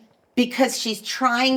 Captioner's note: mimics woman